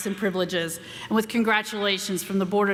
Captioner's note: none